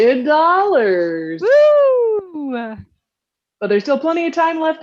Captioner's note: cheering